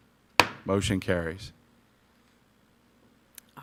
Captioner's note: gavel banging